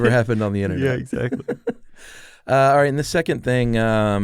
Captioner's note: laughs